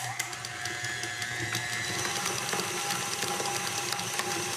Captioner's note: mixer whirring